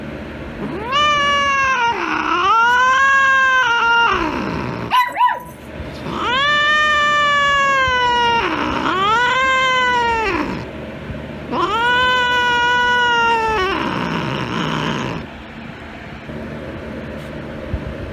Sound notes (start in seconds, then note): 0.6 Caprice continues yowling; 0.6 Ella barking